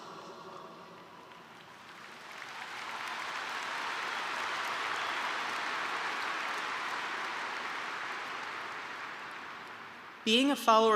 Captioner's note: applause